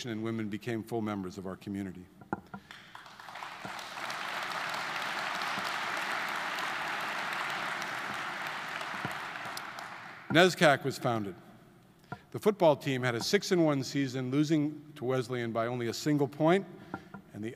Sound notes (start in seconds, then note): 2.6 audience applauding